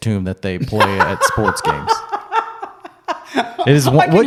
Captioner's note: laughing